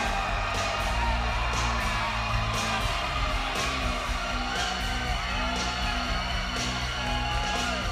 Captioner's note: audience cheering; ominous music